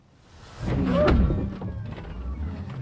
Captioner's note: bang